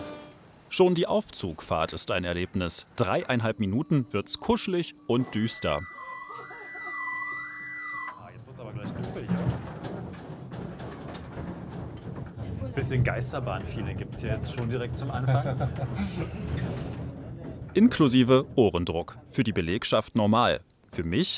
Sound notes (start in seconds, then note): 6.9 beep; 10.4 something rumbles